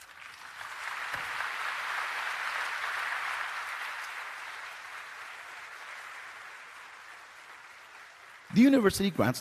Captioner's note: applause